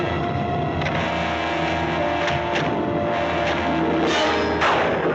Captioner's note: door rattling